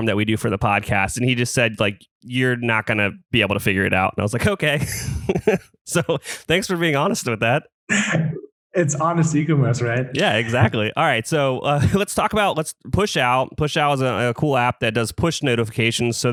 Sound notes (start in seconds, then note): 4.8 laughs; 10.1 laughs